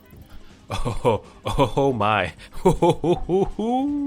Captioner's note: chuckles